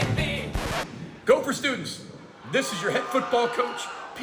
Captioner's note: record scratches